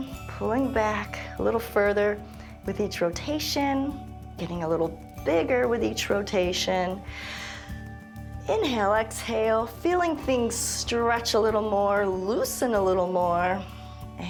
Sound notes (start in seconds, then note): 7.0 inhales